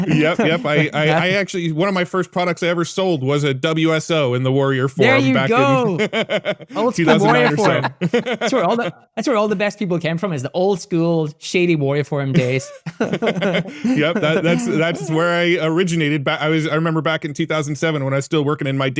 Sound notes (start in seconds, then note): 0.0 laughing; 5.0 laughs; 8.1 laughing; 12.4 laughing